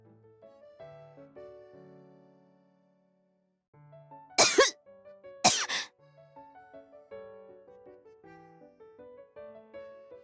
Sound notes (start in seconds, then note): 4.4 coughs